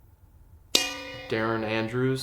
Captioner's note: bell dings